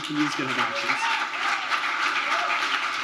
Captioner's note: applause